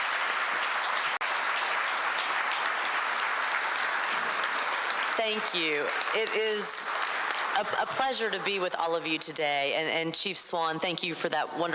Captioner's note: applause